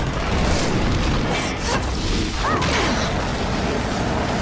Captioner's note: flames whoosh